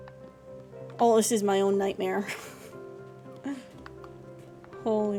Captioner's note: distressed Laughter